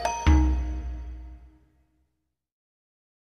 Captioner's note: silence